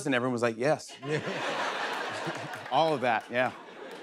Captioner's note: laughter